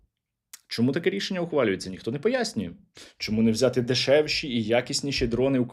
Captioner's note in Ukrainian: сопіння